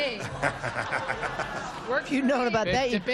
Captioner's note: laughter